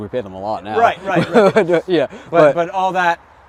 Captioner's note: laughing